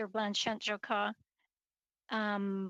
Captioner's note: speaking French